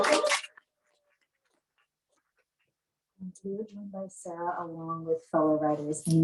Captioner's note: applause